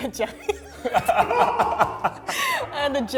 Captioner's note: laughs